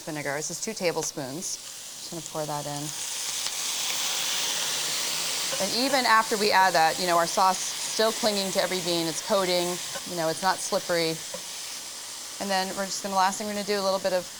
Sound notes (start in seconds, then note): 4.0 sizzling